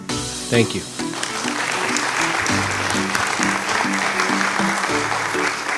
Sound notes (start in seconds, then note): 0.8 applause